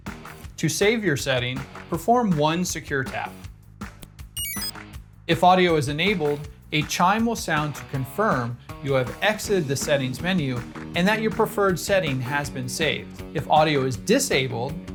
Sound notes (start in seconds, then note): 4.4 exit chime